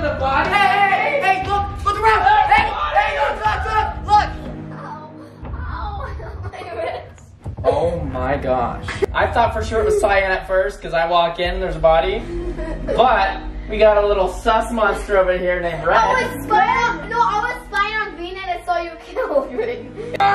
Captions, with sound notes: - Hey, hey! Look around! Hey! Hey! Look around! - (chuckling in pain) Aww. My wrist. - Oh my gosh. I thought for sure it was Cyan at first, 'cause I walked in there's a body. But, we got a little sus monster over here named Red. - No I was spying on Green then I saw you kill Green.